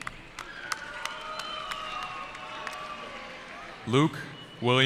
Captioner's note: cheering